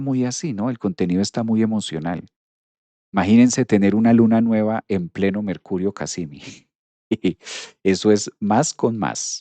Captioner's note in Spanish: resoplido